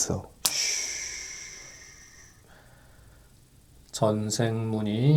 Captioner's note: snap!